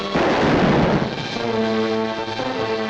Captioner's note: gun fires; suspenseful music